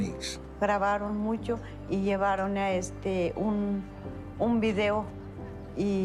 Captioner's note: in Spanish